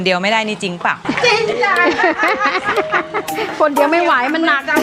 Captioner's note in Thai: เสียงหัวเราะ